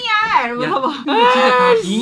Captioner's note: crying